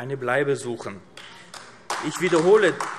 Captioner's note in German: Beifall AfD